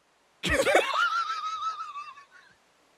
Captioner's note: laugh